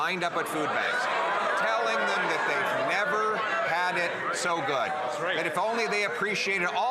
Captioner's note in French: voix de l'interprète